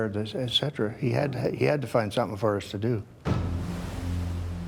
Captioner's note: voiceover